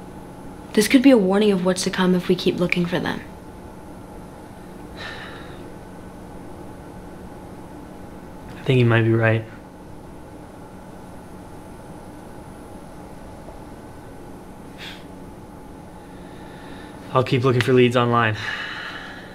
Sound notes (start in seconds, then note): 5.0 Wesley sighs